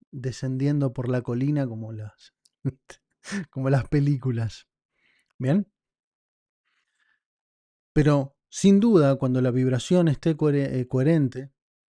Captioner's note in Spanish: risas